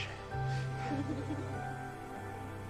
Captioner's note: chuckles